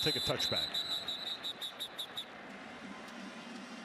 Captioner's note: whistle